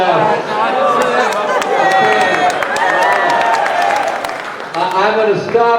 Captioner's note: crowd cheering